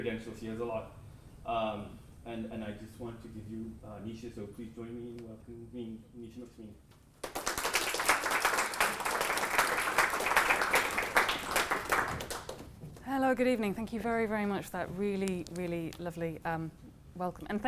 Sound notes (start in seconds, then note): 7.2 applause